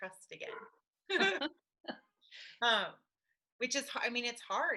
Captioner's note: laughing